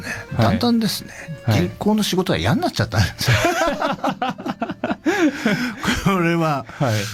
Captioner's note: laughter